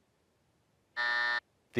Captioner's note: buzzer